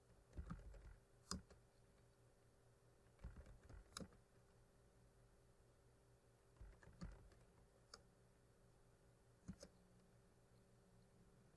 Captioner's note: typing